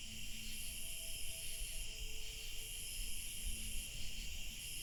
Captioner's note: insects chittering